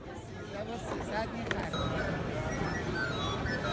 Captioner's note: man speaking foreign language; soft flute music